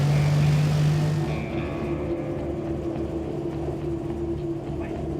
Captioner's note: boat motor running